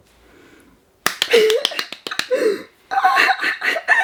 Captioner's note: clapping; laughing